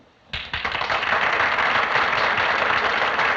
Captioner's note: crowd applauding